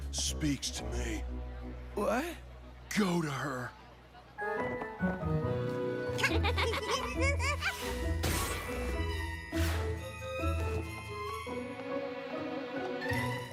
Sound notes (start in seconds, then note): 6.1 both lauaughing